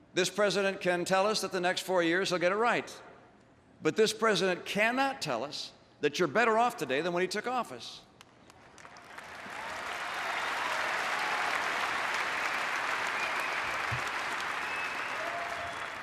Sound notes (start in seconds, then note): 12.8 applause